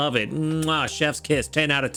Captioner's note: kissing